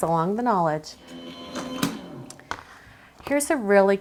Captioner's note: machine whirs